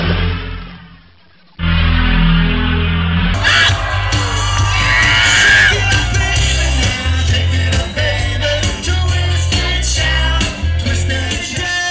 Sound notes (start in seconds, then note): 3.3 singer screams